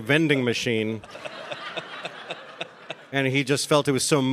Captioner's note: audience laughing